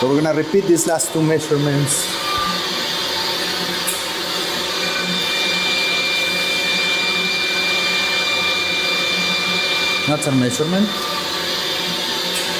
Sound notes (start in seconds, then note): 2.7 pipes hum